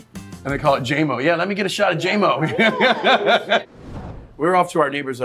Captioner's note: laughs